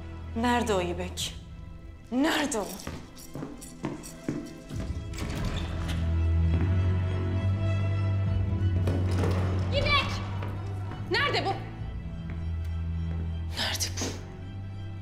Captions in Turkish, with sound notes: Nerede o Yibek? Nerede o! [Ayak sesleri] [Kapı açma sesi] Yibek! Nerde bu! Nerde bu?